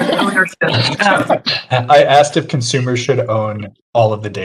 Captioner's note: panelists laugh